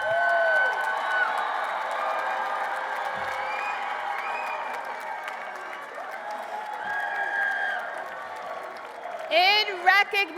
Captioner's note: applause